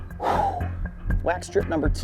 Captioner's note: exhales